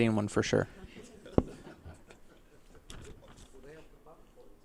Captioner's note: laughter; background conversations